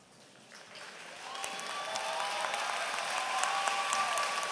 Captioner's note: applause